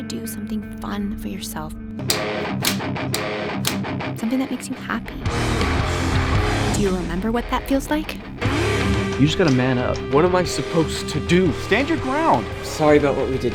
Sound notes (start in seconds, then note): 3.6 clapping